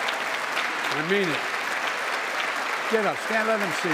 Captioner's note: applause